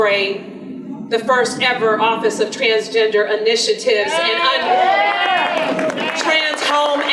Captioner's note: audience applause